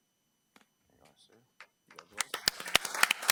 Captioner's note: attendees clapping